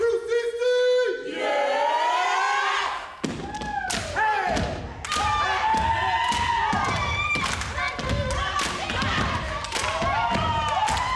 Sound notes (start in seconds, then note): 3.5 feet taps; 3.5 group cheers; 8.5 audience applauds